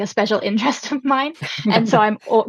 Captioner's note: laughs